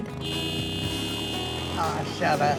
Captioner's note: bike honking